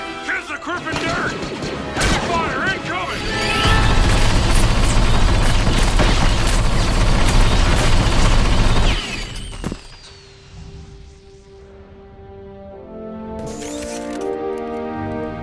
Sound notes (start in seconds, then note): 0.3 over radio; 3.7 rotary cannon fires; 9.0 rotary cannon hisses; 13.2 rotary cannon resets